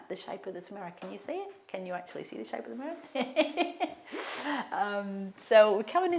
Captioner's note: laughs